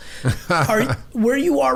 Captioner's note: Mark laughing